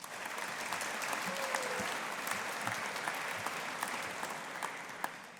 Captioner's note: audience applauding